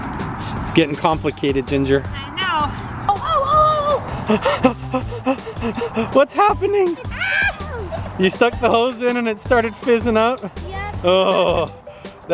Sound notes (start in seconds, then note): 4.0 breathes heavy and rapid